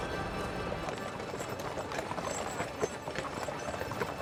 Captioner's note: hooves clopping